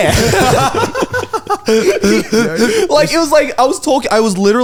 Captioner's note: all laugh